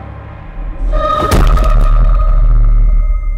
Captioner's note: shoe whacks; tense music